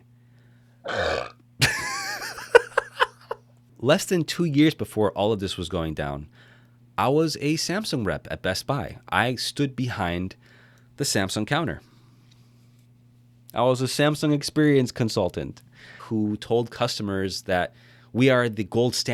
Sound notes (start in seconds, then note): 0.8 burps; 1.6 laughs